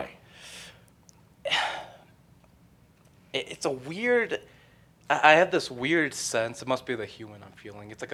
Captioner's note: sighs